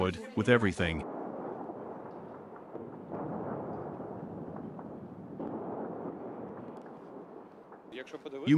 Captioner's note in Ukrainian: вибухи артилерійських снарядів